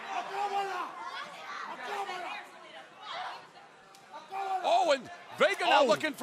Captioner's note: crowd chatter